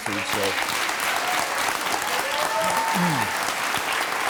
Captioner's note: audience applauding